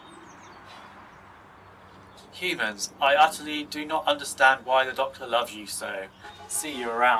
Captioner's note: sighing; sighs